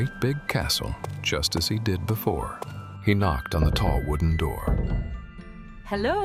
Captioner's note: door knocking